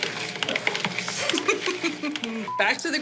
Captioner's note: chuckles